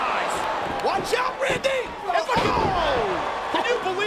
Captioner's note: bodies slamming